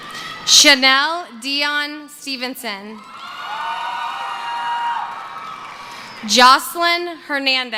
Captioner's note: cheering